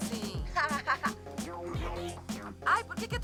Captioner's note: laughs